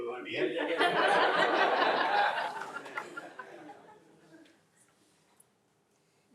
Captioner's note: crowd laughing